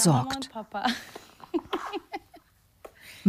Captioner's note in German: Kichern